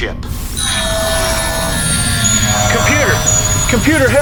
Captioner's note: systems humming